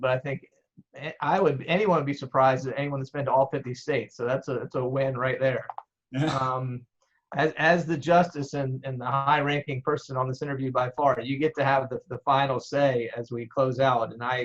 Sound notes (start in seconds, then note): 6.2 laughs